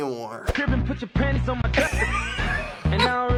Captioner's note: snickers